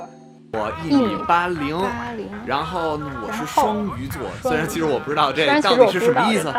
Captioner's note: speaking in Mandarin